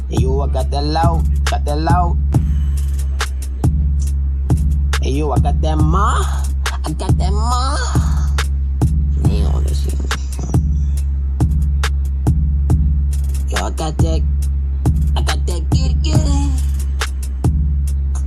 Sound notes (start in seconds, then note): 8.9 disappointed gibberish